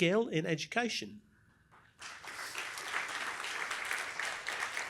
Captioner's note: applause